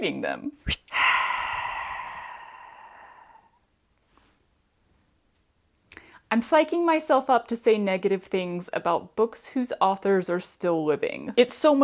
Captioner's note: exceptionally long sigh